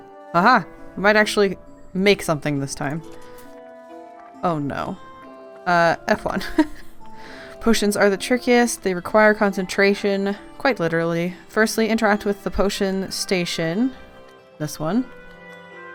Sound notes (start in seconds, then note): 6.3 laughs